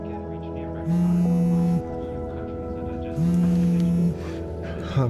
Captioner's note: phone rings